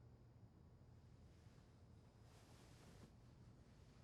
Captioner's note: none